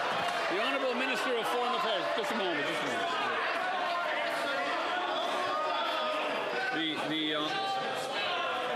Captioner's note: applause